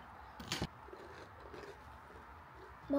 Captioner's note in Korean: 와그작와그작